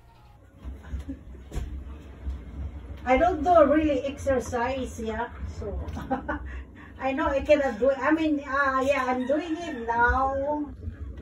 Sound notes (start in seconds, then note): 5.9 laughs